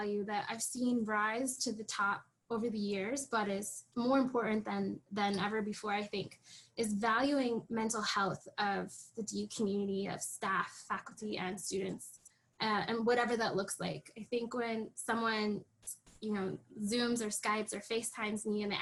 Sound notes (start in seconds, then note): none